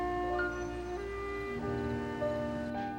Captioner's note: elevator dings